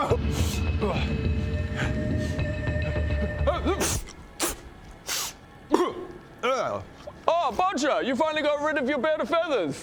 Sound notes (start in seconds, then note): 0.1 feathery sniff; 5.0 pff